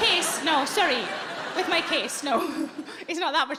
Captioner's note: audience laughing